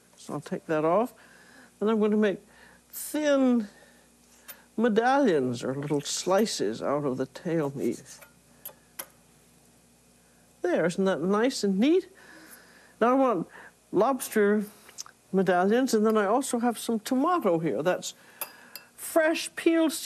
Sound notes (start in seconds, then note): none